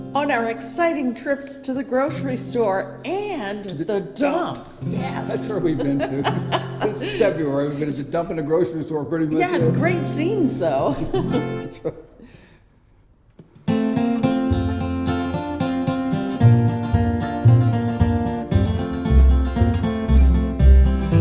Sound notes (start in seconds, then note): 5.1 laughs; 10.8 both laughing; 13.6 gentle bluegrass music